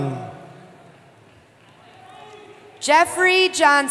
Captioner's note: cheering